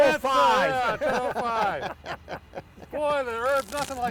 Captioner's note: chuckling